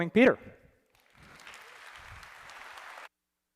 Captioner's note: applause